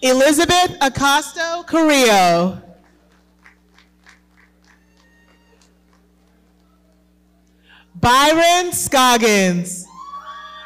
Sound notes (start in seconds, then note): 2.8 audience clapping; 9.9 audience cheering